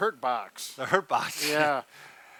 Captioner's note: laughs